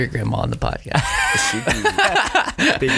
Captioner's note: laughter